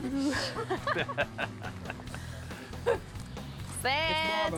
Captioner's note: laughter